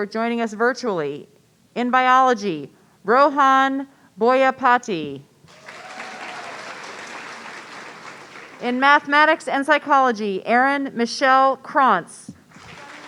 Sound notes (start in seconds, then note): 5.5 audience cheering